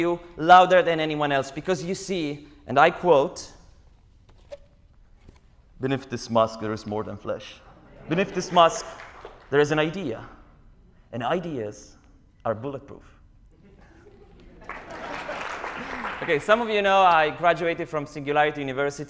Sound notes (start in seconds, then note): 13.9 laughter, applause